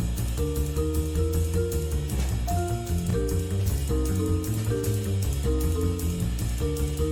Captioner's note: none